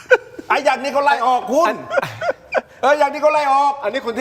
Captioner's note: laughs